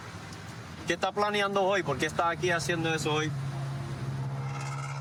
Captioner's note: speaking spanish